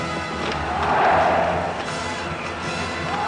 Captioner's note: crowd chanting